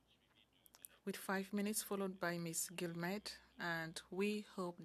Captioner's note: speaking French